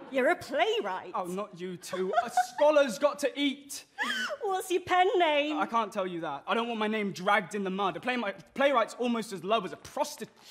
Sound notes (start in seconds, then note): 1.8 she laughs